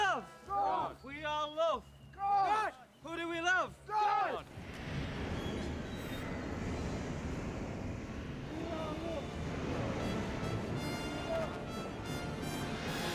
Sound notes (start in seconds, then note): 3.2 loud billowing; 8.9 dramatic music